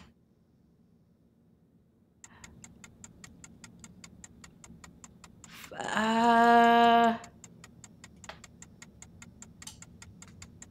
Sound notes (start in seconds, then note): 2.2 timer ticking